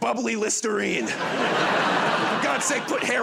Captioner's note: laughter